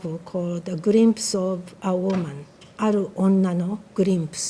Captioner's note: speaking foreign language